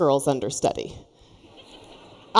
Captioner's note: laughter